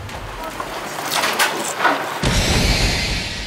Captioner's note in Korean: 바스락 바사삭 바삭